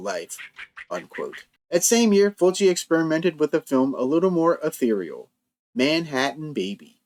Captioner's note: quack quack quack